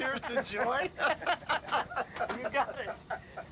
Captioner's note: laughter